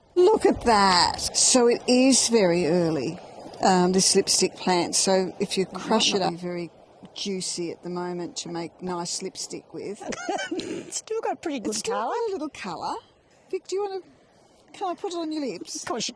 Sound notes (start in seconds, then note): 10.0 laughs